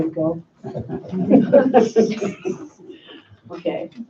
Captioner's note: laughing